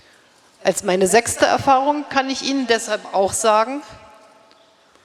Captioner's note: speaking in German